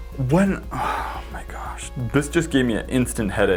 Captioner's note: sighing